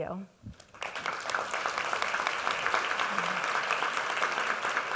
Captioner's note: audience applauds